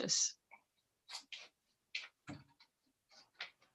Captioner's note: silence